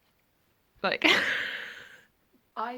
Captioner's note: laughs